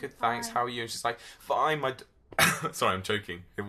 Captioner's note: coughs loudly